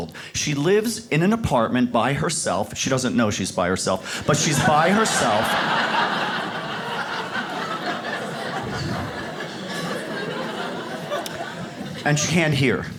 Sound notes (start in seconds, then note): 4.2 audience laughs